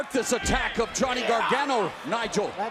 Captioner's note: crowd chatter